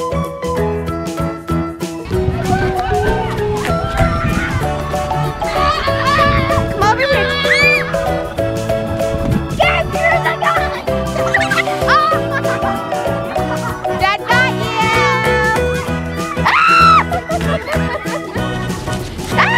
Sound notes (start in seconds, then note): 5.1 yells; 7.0 screaming And Laughing; 12.2 laughs; 17.7 screams And Laughs